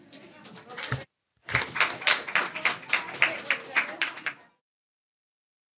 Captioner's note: applause